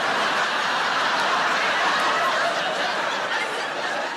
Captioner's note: audience laughs